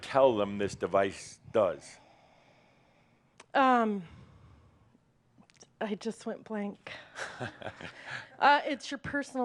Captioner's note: Adamus chuckles